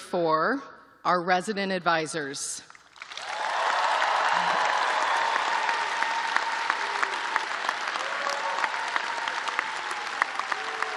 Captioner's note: cheers and applause